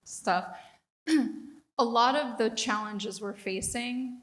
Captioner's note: cough